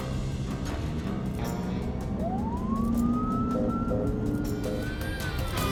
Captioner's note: police siren wailing